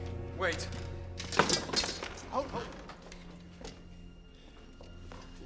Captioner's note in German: Schwert klappert auf dem Boden